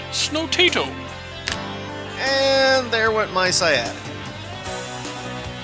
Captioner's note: faint cracking sound